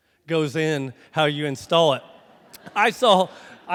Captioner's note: crowd laughs